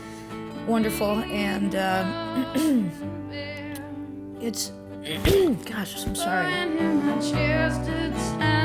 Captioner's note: cough